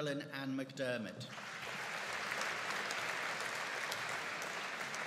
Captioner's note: audience applauding